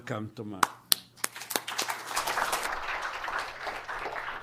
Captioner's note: applause